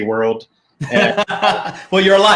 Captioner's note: laughing